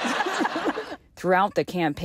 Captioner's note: laughter